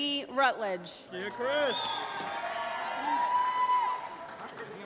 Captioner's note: applause